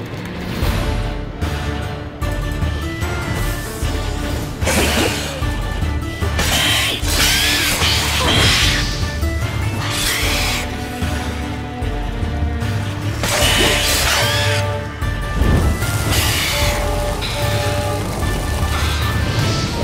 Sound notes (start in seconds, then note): 6.4 shriek; 8.4 flames whoosh; 13.2 shriek; 15.8 flames crackle